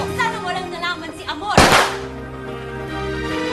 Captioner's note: gunshot